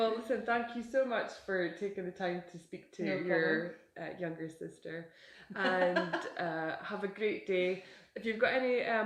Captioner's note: giggle